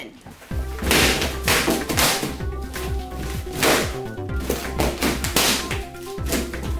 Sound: upbeat music; balloons popping

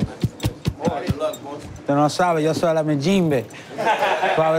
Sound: all speaking spanish; laughter

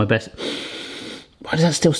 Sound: inhaling

